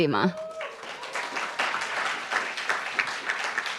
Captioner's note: applauds